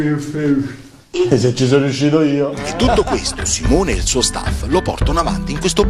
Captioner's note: laughs